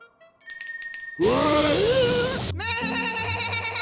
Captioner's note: bell rings; bleating loudly